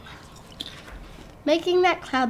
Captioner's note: crunches popcorn